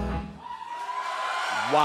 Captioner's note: cheers and applause